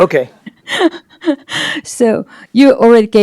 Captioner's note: laughter